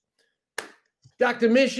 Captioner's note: claps hands